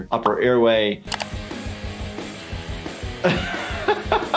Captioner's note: upbeat rock music; computer mouse clicks; laughing